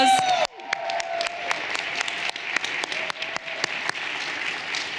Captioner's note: everyone applauding